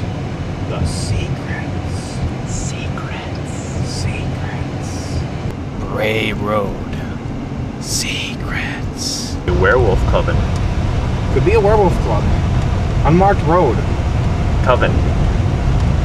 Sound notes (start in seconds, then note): 6.3 still in hushed whisper